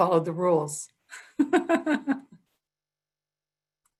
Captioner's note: laughs